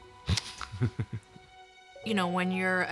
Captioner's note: chuckles